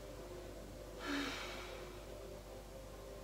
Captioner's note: exhaling